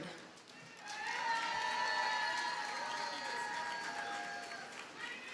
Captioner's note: audience cheers and applauds